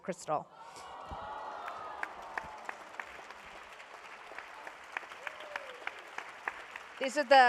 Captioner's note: applause